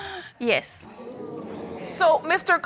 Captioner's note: audience exclaiming